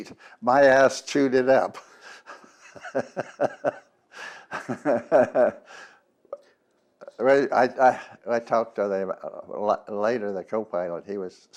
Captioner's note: laughs